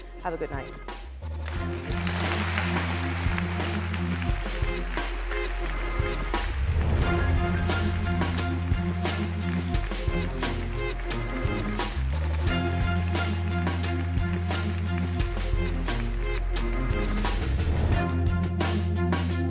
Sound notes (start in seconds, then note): 6.3 applause